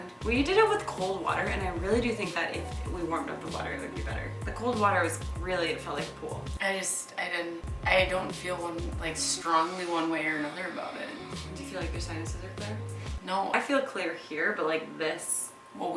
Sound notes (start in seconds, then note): 9.8 breathing heavily